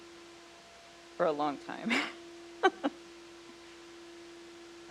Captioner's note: laughs